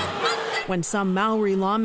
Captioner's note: chanting